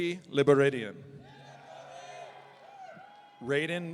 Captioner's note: audience cheering